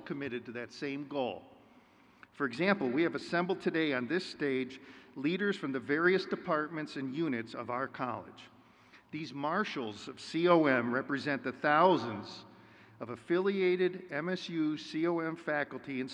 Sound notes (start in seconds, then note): none